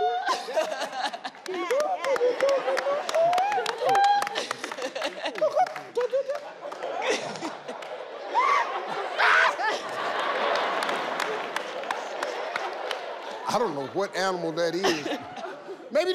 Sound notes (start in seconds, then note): 0.1 audience laughing; 8.4 yelling; 10.9 audience laughing